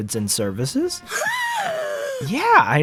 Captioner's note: CalebCity does the Arthur Gasp